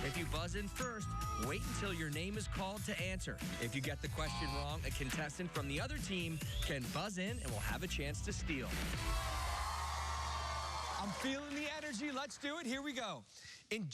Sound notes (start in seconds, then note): 8.9 cheers and applause